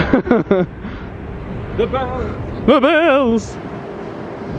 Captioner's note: laughing